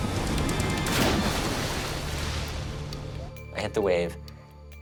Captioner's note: water splashes